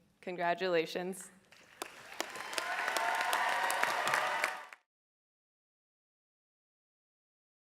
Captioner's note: audience applauding; audience cheering